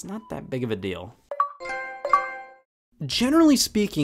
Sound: Xbox and PlayStation sounds

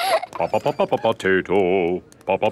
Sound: children laughing; sing-song voice

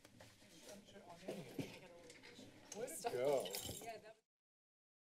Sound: chatter; silence

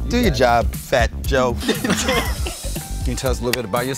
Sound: laugh

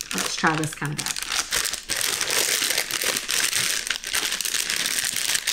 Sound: loud plastic crinkling

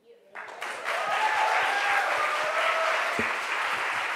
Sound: crowd applauds

